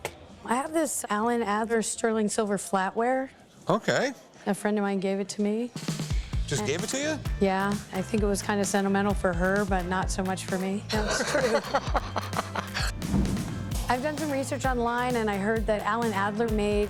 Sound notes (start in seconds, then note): 10.9 laughter